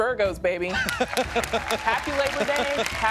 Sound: laughs

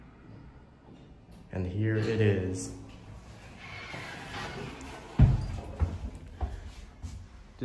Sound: door Opens

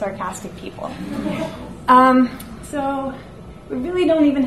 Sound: audience laughs

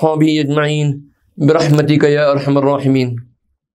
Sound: arabic

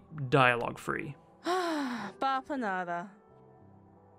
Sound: sigh

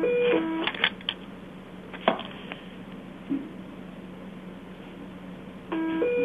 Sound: beeping

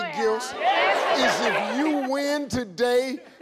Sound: people applauding

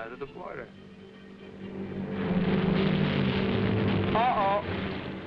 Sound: plane droning

